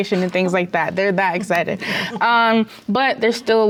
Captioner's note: laughs